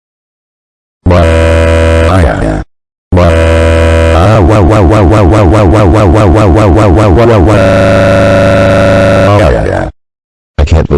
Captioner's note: crying in agony